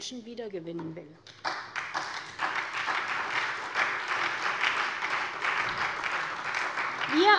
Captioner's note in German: Beifall SPD